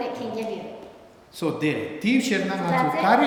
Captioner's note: speaking tibetan